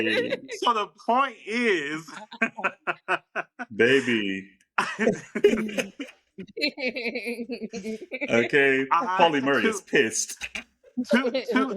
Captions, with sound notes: (laughs) So the point is. (laughs) Baby. (laughs) Okay, Pauli Murray is pissed.